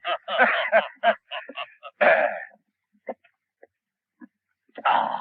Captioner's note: both chuckling